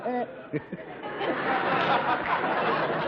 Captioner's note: giggles